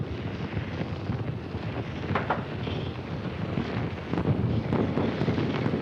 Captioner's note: fire crackling, explosions popping